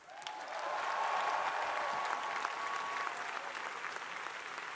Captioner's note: crowd applauding